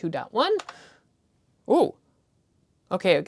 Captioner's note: nerdy excitement